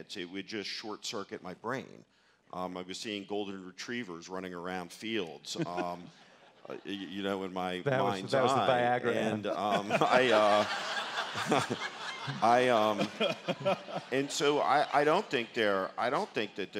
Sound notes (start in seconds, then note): 5.5 laughs; 5.6 audience laughter; 9.4 audience laughter; 9.5 laughs